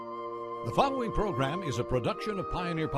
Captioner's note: voiceover